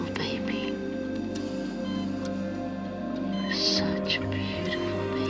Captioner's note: dramatic music; machine beeping